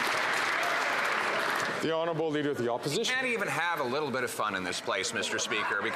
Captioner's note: some Applause